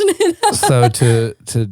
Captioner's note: laughing